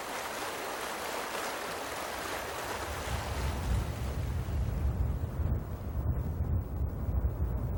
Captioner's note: thunder rumbling